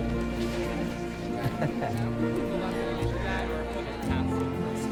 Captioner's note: laughter